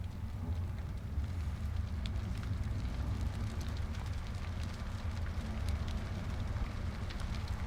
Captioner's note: fire crackling